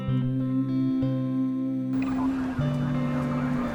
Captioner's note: police radio chatter